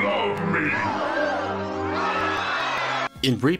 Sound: appropriate crowd reaction

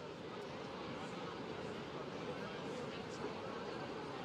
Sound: speaking spanish

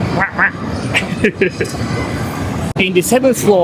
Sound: laughs

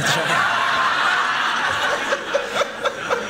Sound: laughter

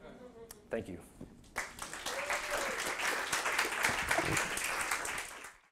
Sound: audience applauding

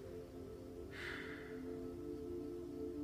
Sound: exhales

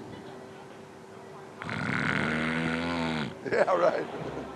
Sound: snoring

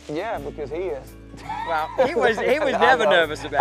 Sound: laughing

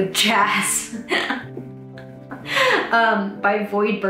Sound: laughs

